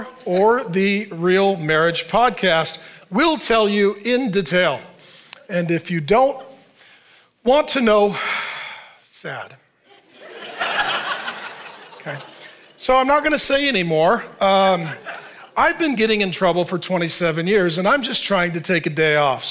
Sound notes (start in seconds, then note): 9.9 audience laughing